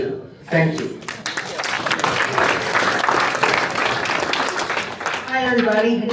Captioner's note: applause